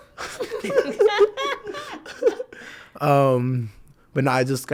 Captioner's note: all laugh